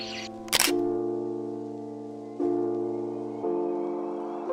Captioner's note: shutter clicking